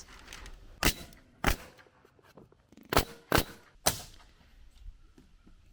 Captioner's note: nail gun shooting